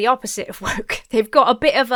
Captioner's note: chuckles